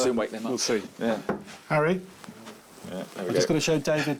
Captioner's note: knocks